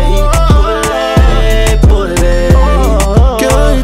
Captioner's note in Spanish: Ohh